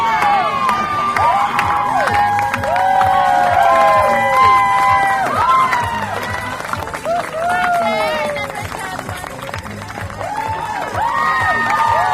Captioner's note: audience cheers and applause